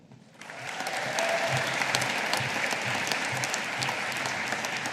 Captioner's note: audience applauding